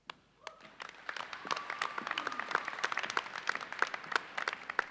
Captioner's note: audience applauds